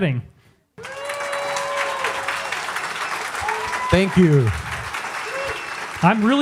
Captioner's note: applause